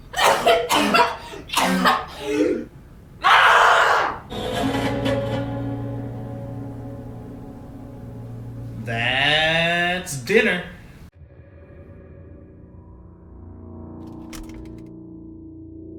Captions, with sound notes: (Wilhelmina coughs violently) (Wilhelmina yells) - That's dinner. (mysterious synth music)